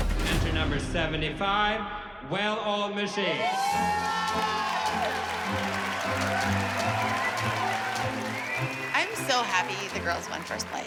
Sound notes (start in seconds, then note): 3.3 crowd cheering